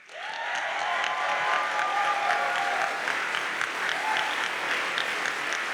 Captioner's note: audience cheers and applauds